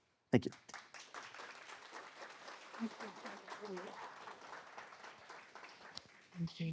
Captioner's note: applause